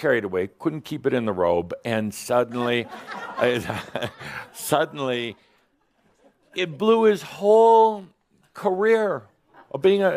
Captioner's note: some chuckles